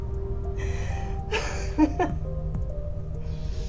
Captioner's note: Jane laughs